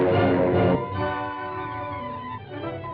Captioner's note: beeping